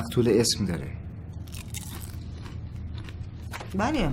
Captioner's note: crisps sound